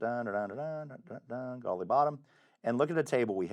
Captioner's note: humming